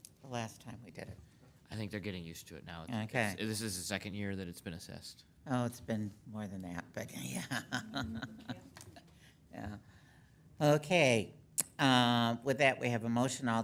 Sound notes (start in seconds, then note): 7.2 laughs